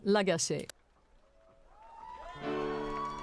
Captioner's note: speaking French